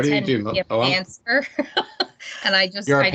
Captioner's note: laughing